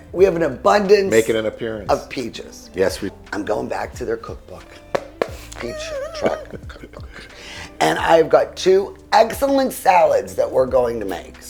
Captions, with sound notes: - We have an abundance - Making an appearance. - of peaches. - Yes we... I'm going back to their cookbook. (knocking) Peach Truck Cookbook. And I've got two excellent salads that we're going to make.